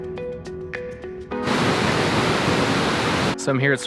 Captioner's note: waterfall surging